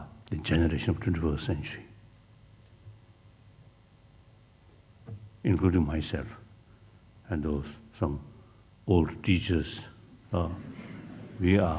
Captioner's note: laughs